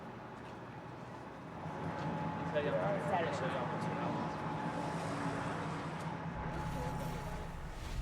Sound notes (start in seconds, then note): 2.5 indistinct chatter